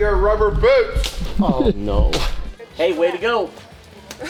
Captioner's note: chuckles; chuckles